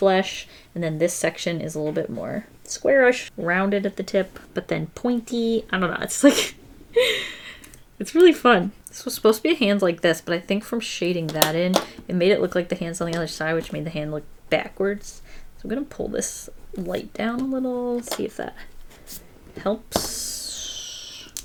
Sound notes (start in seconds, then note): 7.0 laughs